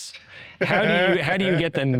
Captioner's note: chuckling